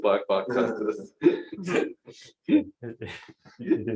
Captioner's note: laughter